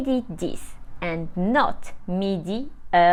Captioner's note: speaks French